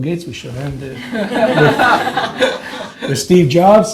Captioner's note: audience laughs